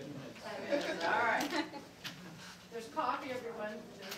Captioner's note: crowd laughing